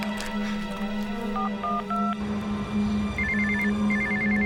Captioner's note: dialing phone; phone ringing